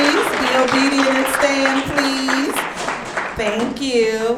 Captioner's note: audience clapping